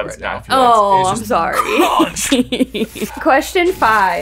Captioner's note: chuckles